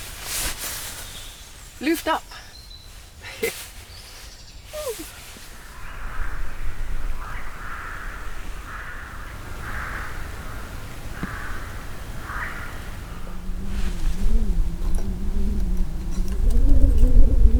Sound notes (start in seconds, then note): 5.4 crows; 13.7 wind blowing